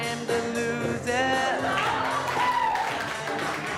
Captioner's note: cheers and applause